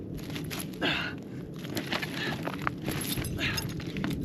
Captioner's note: host grunting